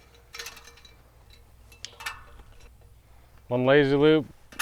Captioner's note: metal clunking